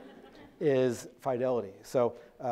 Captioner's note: audience laughing